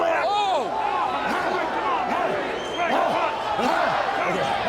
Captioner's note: audience shouting